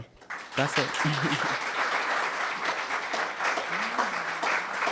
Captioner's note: audience applauding